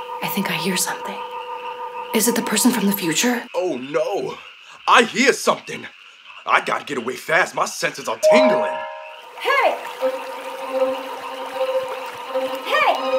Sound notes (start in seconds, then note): 8.2 fingers ding; 10.8 tense music